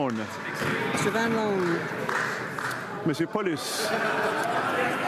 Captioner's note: some Applause